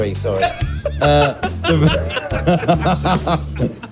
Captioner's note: laughs